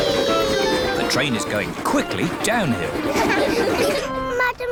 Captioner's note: laughter